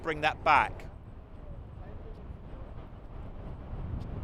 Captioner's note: beach sounds